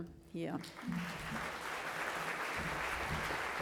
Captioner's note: applause